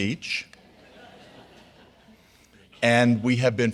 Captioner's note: audience laughing